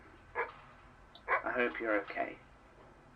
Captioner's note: dog barking; a beat